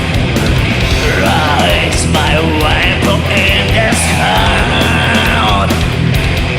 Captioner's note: Gollum voice